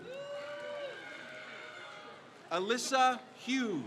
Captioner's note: crowd cheers